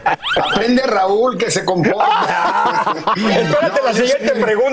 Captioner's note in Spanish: risas